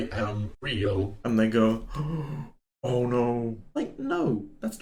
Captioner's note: gasp